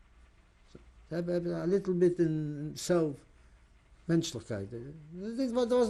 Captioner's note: non-english